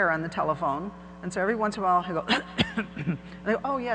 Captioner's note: coughs